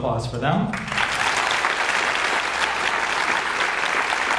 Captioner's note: audience applauds